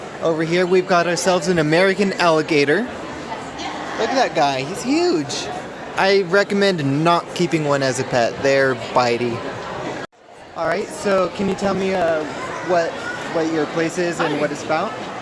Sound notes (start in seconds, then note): 3.0 crowd sounds